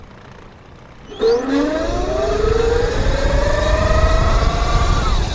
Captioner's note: engine roars